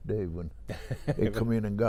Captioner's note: laughing